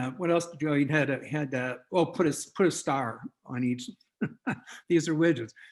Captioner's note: chuckles